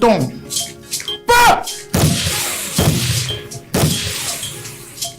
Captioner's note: multiple gunshot sounds